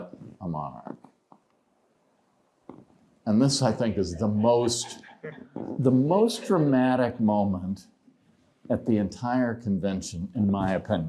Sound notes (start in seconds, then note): 3.5 laughter